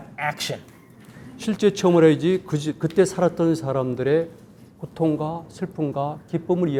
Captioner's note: speaking in Korean